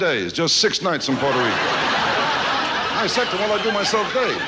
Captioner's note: audience laughs